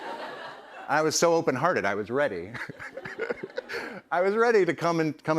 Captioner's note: chuckles